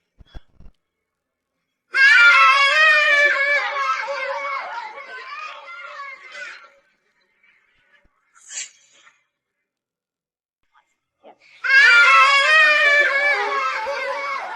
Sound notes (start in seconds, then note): 1.9 sigh of relief